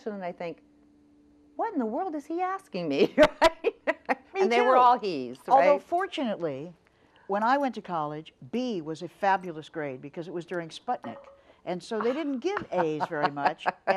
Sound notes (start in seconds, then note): 3.2 laughs